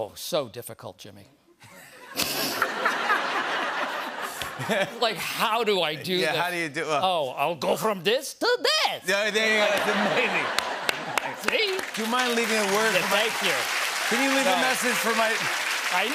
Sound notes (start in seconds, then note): 1.6 laughter; 8.3 high-pitched voice; 9.6 laughter